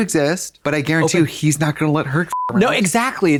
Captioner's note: beep